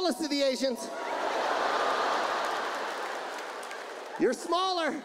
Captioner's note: audience laughs